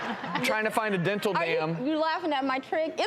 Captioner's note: audience laughs